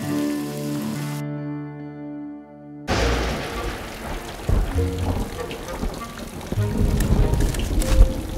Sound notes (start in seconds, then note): 2.8 lightning strikes and rain